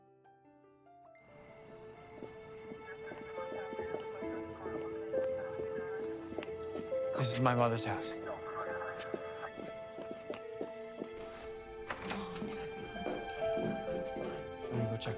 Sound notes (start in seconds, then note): 1.8 insects chirping